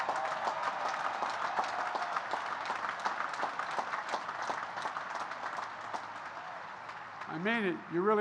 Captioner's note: applause